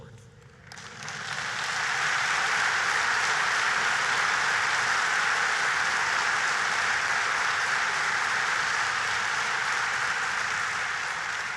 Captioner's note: applause